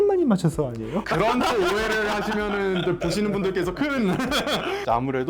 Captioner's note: laugh